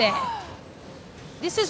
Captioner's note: gasps